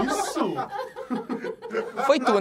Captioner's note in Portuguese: risadas